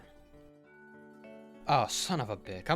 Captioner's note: silence